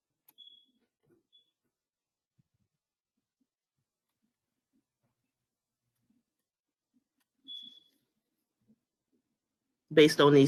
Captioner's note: 10 seconds pause